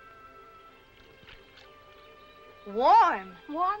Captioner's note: water splashing